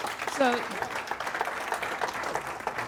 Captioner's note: audience applauds